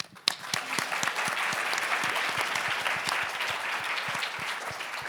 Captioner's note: applauds